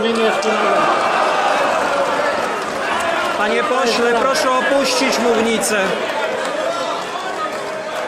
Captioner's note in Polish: Aplauz